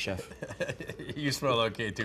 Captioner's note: Ming chuckles